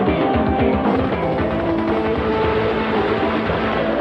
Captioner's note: helicopter whirring; machine gun rattling; water splashing